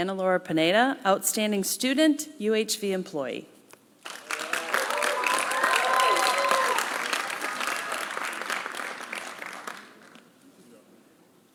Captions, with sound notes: Ana Laura Pineda outstanding student UHV employee. (applause)